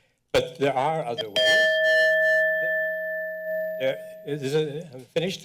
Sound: bell rings

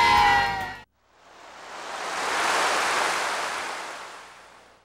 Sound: ocean waves crashing

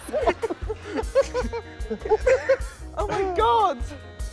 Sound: laughter

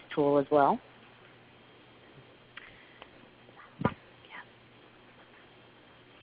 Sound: silence

